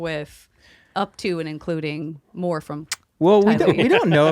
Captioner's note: kiss sound